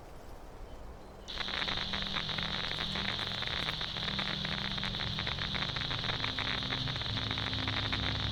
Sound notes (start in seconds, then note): 1.2 static begins; 3.6 haunting ambient music